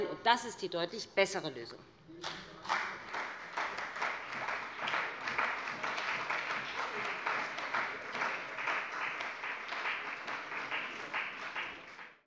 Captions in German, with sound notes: Das ist die deutlich bessere Lösung. [Beifall bei dem BÜNDNIS 90/DIE GRÜNEN und der CDU]